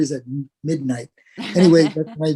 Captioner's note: laugh